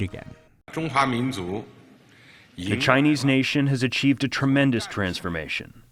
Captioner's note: through translator